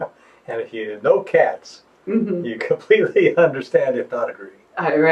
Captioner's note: laughs